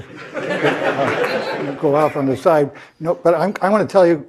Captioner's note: laugh